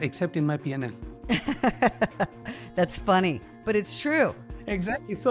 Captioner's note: laughs